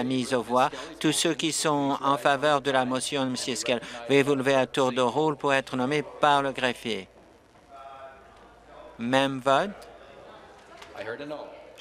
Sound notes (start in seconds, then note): none